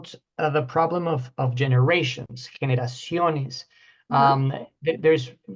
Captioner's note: spanish